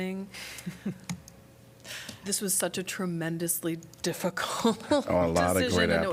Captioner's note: laughter